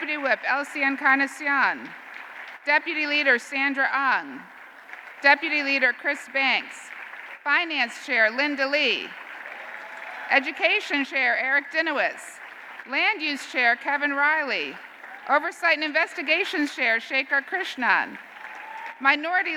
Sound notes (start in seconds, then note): 9.5 applause continue